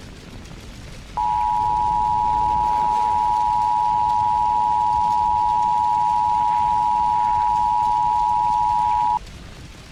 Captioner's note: attention tone